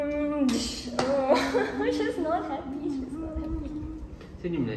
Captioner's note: laughs